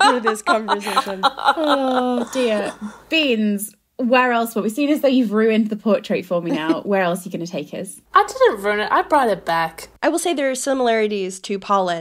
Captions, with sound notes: for this conversation. (laughs) - Oh dear. Beans, where else--? Seeing as though you've ruined the portrait for me now. Where else are you gonna take us? - I didn't ruin it, I brought it back. - I will say there are similarities to Polin.